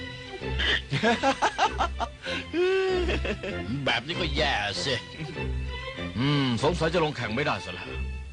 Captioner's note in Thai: เสียงหัวเราะ